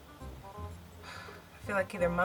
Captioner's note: sighs